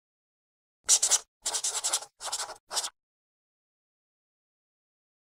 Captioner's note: chalk scratching